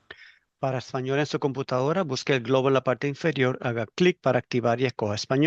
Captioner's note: interpreter speaking in Spanish